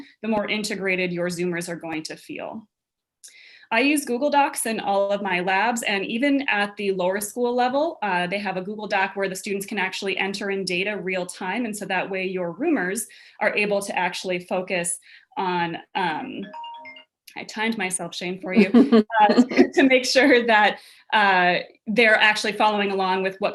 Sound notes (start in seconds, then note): 16.4 phone alarm; 18.5 laughs